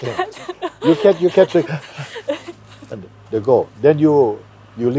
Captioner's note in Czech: Tazatelka se směje